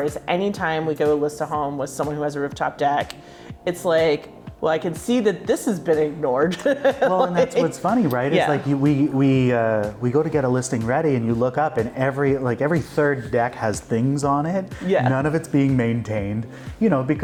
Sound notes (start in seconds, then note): 6.5 laughing